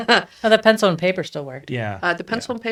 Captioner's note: laughs